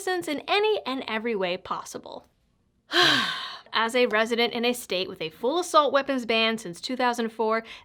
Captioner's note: deep breath